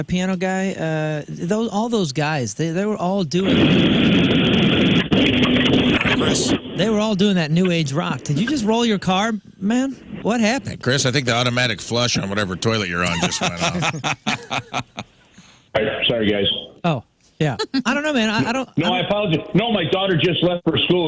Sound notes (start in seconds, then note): 5.8 engine Revving; 15.5 laughing